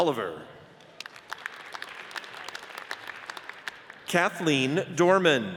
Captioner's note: audience cheers and applauds